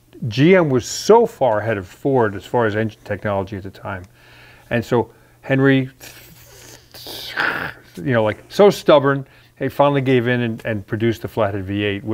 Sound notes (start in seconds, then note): 6.1 gnashing teeth